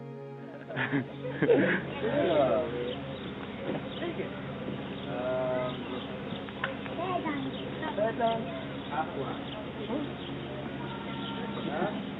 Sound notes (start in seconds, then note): 0.6 chuckles; 5.2 birds chirping